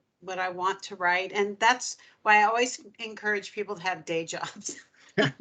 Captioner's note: laughing